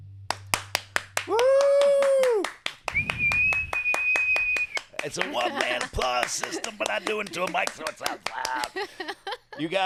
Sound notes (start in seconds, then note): 0.3 claps; 2.8 whistling; 8.9 laughs